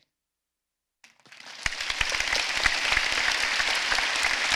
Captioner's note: applause